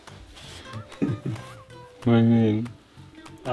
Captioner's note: laughs